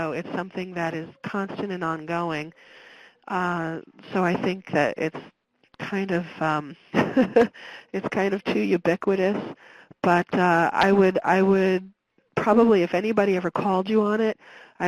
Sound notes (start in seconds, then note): 6.9 chuckles